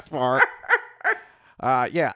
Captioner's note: cackles